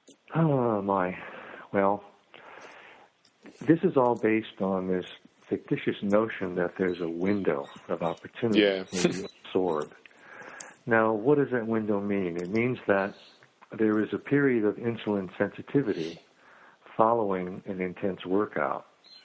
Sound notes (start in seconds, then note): 8.2 chuckles